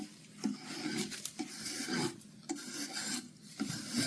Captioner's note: scraping